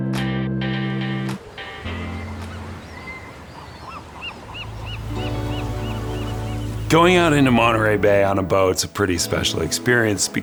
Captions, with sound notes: (gulls squawking) (gentle music) Going out into Monterey Bay on a boat, it's a pretty special experience